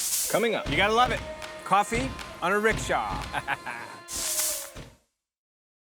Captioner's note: chuckles